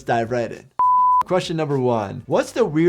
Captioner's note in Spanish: pitido en pantalla